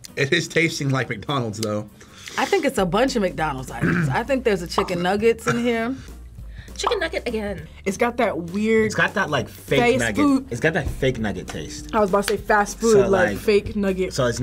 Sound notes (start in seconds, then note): 6.8 bubble popping